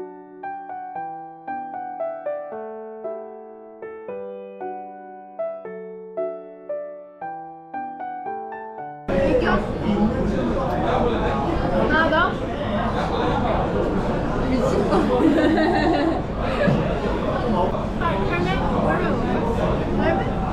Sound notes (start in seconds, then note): 14.8 laughing